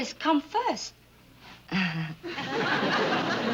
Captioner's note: laughs weakly